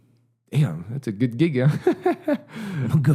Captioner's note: laughing